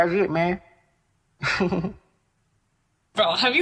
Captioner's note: laughing